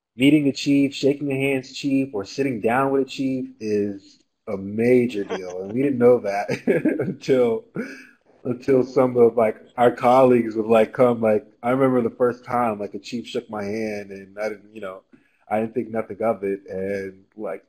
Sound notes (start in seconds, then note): 7.7 laugh